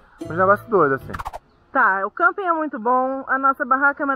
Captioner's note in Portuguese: som de transição